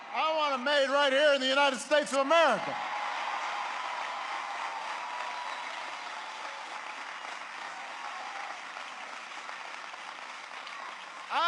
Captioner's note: applause